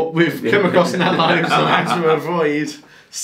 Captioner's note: laughing